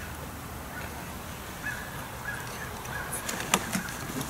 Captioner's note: wind blowing